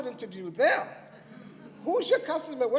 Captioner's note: laughter